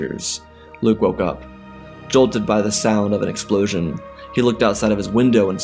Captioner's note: heavy breathing